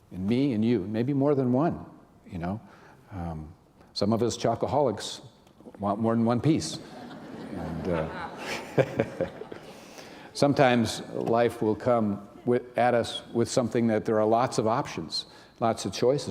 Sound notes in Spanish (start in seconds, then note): 6.8 risas